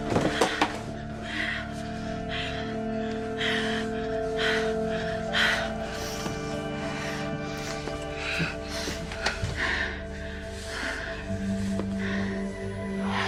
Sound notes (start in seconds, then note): 0.0 heavy breathing; 1.0 women moaning